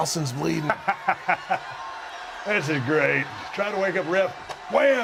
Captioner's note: laugh